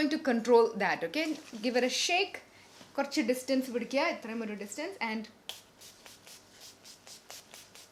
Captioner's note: sprays